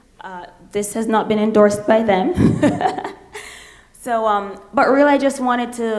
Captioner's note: laughs